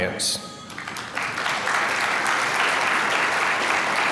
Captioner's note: applause